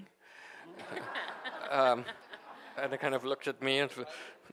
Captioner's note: audience laughing